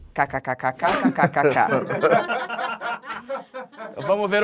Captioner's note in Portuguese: risadas